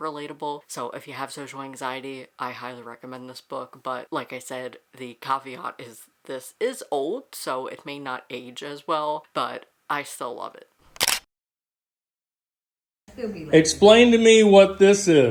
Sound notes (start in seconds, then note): 10.9 camera shutter; 11.6 no audio